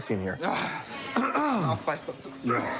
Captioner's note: clears throat; coughs